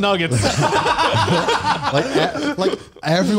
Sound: laughs

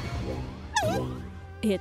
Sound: startled whimper

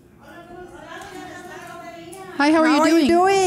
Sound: speaking in foreign language

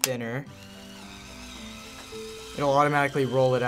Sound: film whirs inside

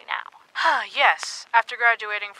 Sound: sighs

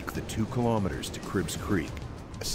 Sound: voiceover

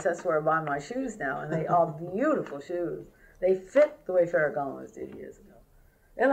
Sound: laughter

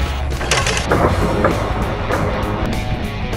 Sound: click; slowed down roar

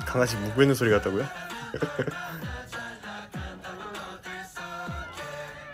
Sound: laughs

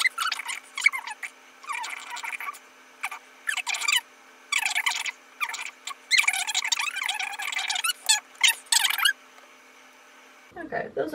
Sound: yet more sped up babbling

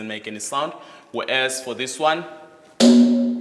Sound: bangs

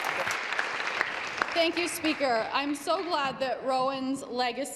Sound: applause

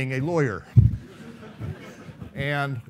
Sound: laughing

